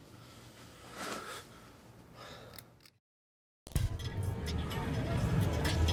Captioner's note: light switch clicks; sighs